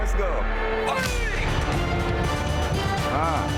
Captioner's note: instructor shouting